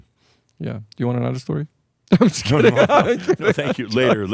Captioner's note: he laughs